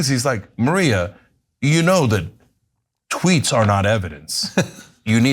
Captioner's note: laugh